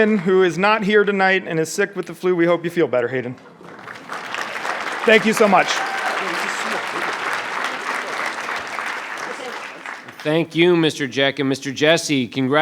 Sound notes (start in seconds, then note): 6.1 audience clapping